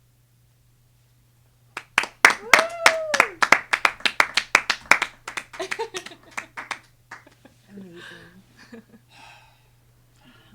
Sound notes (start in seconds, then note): 1.7 clapping; 2.3 cheering; 5.5 laughing; 8.5 laughing